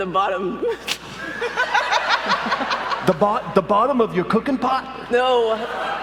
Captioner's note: laughter